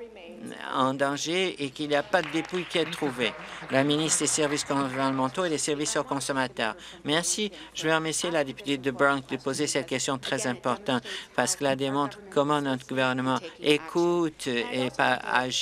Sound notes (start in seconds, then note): 4.7 applause